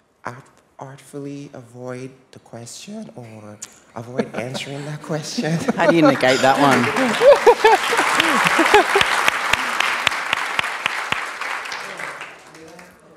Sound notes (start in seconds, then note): 4.0 laughter; 6.9 laughter and Applause